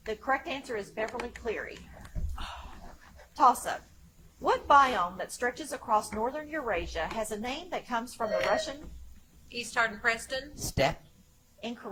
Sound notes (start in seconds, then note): 8.2 buzzer chimes